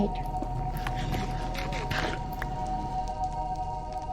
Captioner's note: crunching sounds